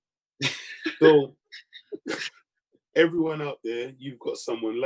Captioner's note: laughing